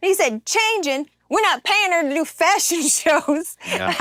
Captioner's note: laugh